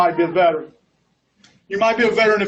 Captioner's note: laughs